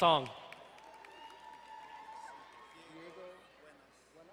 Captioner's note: distant cheering